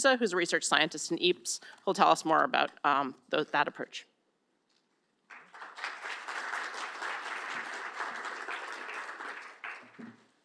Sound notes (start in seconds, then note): 5.2 applause